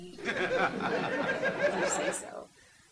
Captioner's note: audience laughing